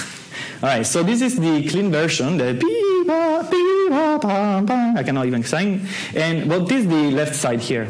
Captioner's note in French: fait les sons